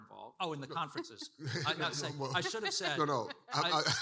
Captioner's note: participants laughing